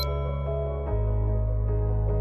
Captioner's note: beep Sound